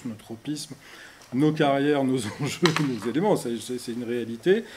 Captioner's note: laughs